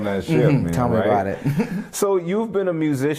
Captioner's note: laughter